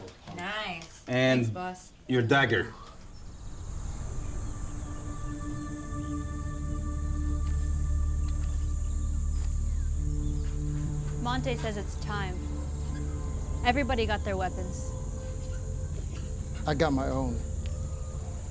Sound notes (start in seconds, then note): 5.0 birds chirping; 5.0 light dramatic music